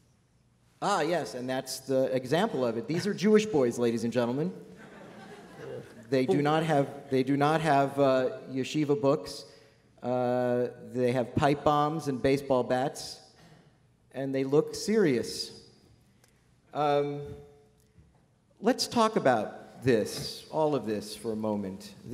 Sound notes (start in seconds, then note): 4.7 laughter